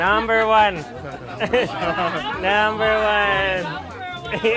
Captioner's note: laughing; crowd